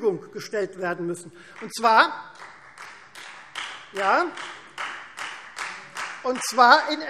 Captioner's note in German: Beifall Freie Demokraten